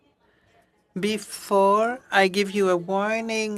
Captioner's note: speaking french